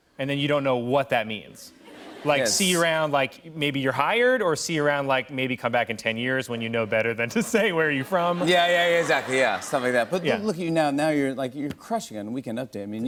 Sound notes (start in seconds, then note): 7.3 laughter